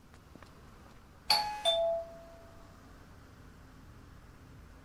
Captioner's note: door bell